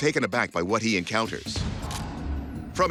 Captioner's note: camera shutter clicks